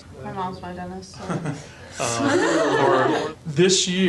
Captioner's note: laughing